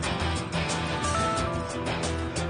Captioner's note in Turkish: telefon çalar